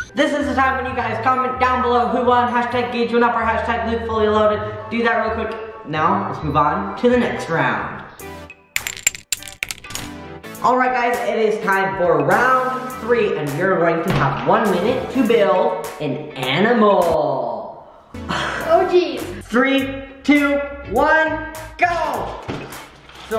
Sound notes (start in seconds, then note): 8.2 electronic music; 8.8 clinking; 17.7 laughs